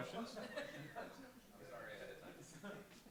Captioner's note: laughter